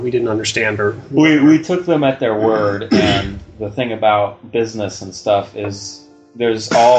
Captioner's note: clears throat